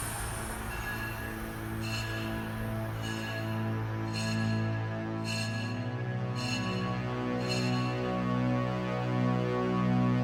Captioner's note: bells